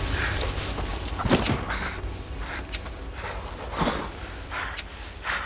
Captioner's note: Preston panting